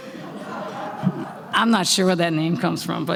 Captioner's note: laughter